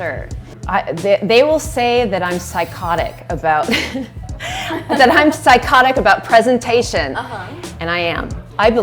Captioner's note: laughs